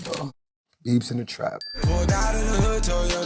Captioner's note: bell dings